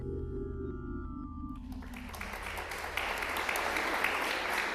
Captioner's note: applause